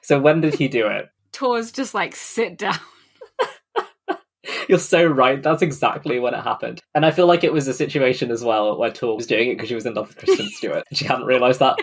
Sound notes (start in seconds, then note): 4.6 laughs